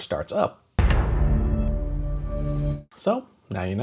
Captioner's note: Netflix startup sound